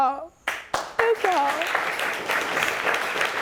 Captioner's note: audience applauding